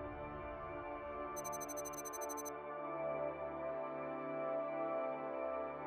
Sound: electronic beeping

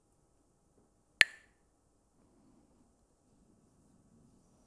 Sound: Mooji clacks the sticks

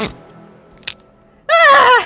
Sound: bone snap; Vera screams in agony

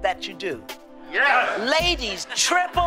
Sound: laughter

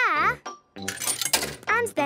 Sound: coin tumbling

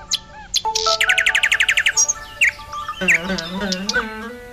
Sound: mobile Alarm ring

